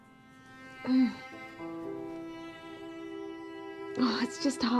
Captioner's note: Ruth groaning